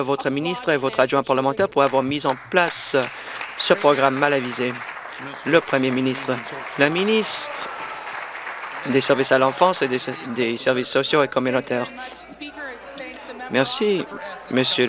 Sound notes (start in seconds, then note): 6.0 applause